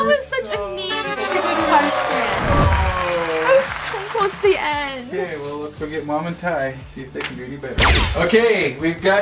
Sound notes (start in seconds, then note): 1.1 applause; 2.4 descending tones; 7.8 laser swoosh